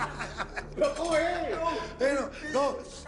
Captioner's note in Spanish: Risas; Hablan al unísono